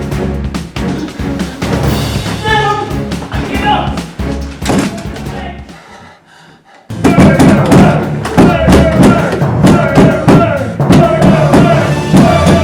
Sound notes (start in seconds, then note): 4.6 door slams; 5.6 heavy panting